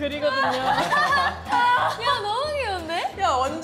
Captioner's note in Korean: 헤헿